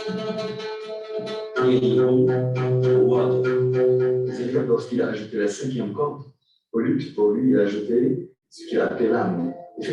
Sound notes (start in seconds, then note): 5.1 non-english speech